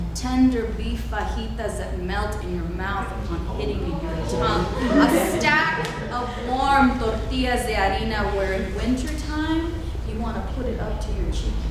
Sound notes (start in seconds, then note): 7.0 speaking foreign language